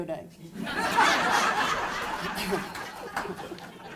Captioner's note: crowd laughing